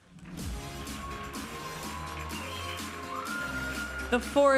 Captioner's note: audience applauding and cheering